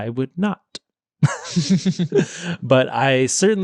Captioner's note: laughing